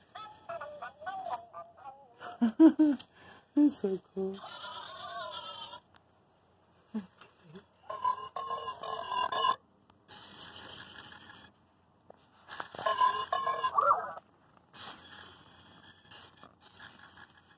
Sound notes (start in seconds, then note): 6.4 robot sounds